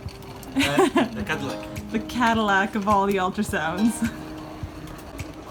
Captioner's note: laughing